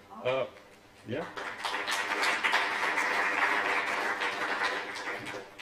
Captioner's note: applause